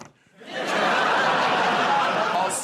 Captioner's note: laughter